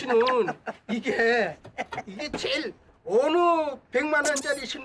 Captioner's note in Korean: 빵터짐